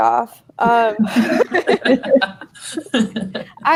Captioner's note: laughing